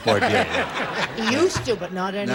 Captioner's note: laughter